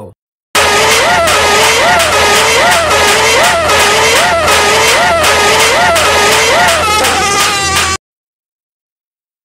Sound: screaming and raping

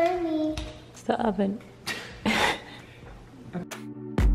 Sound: laughing; upbeat music

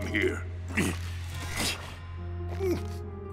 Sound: grunting

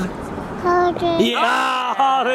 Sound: cheering

